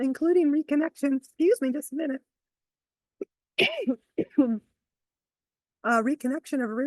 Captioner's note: coughs